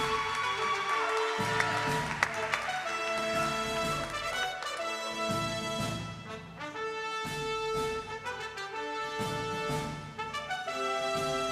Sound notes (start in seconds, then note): 0.0 applause